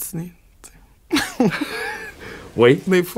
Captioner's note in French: éclat de rire